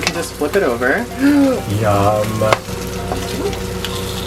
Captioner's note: gasps